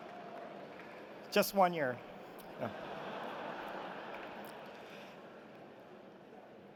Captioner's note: applause